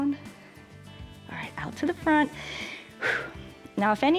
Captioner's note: inhales and exhales